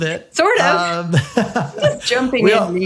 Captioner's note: laughing